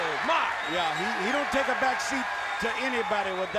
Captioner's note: crowd cheering